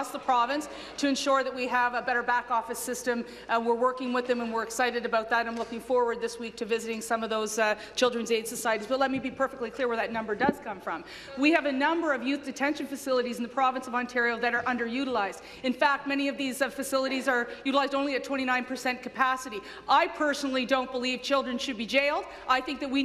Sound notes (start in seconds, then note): none